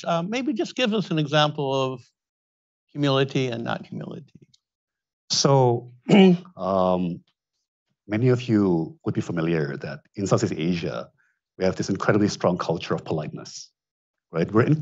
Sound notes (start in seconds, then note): 6.1 clears throat